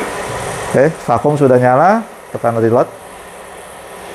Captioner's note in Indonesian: suara mesin printer